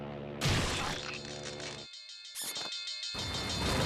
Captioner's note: alarm ringing